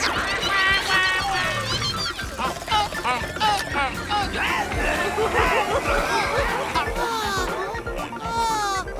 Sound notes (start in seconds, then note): 3.6 giggling